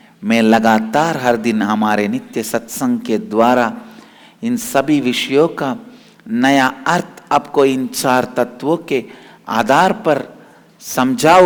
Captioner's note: hindi